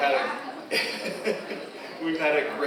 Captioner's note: laughs